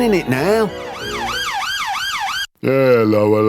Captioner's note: police Siren